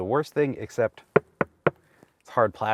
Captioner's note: knuckle knocking